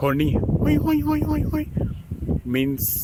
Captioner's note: terribly mimics horn